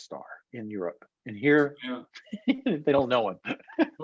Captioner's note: laughs